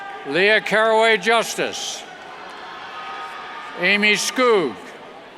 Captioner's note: cheers